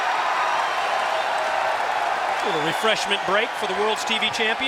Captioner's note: crowd cheering